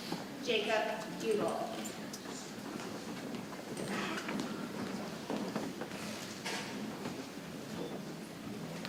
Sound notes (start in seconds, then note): 3.4 people chattering softly